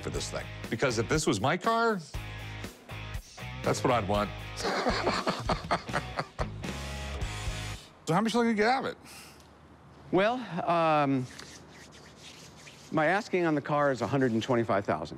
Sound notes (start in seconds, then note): 4.6 laughs